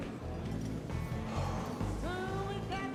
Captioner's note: sighs; singing